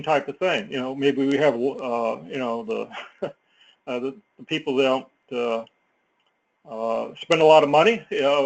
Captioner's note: laugh